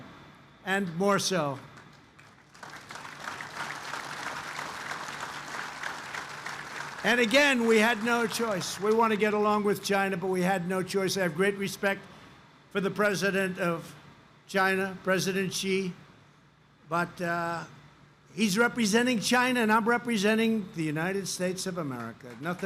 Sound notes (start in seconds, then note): 1.5 applause